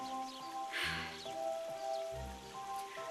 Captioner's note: sighing